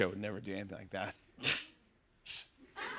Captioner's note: scoffs; laughter